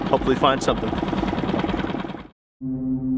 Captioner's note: motor splutters; eerie organ music